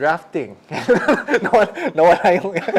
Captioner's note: laughs